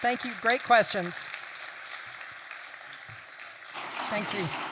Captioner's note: applause